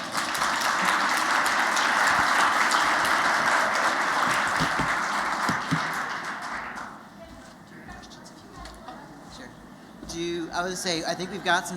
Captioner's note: applause